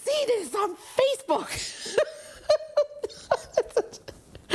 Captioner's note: laughs